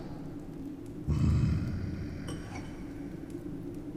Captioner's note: moans